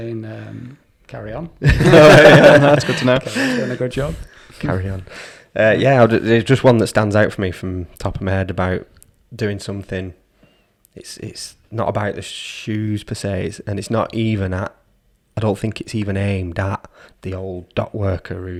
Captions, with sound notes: - No he's saying "carry on" (laughs) It's good to know, done a good job - Carry on. Yeah there's just one that stands out for me from TopMed about doing something, it's not about the shoes per se, and it's not even, I don't even think it's aimed at the old dock worker